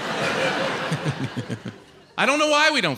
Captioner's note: chuckles maniacally